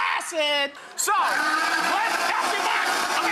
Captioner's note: blender whirring